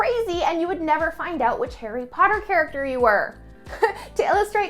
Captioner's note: chuckles